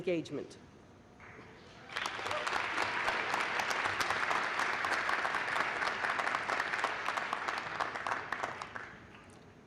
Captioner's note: applause